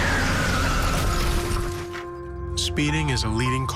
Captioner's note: tires screeching; car crashing